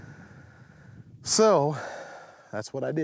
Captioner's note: sighs